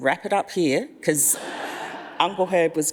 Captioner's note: audience laughs